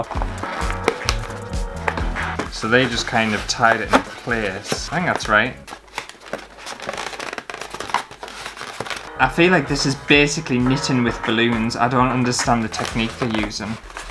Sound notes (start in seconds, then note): 0.0 squeaky Balloon Sounds; 7.3 balloons Squeaking